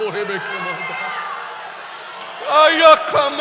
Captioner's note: applause